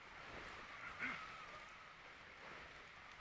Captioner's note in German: Räuspern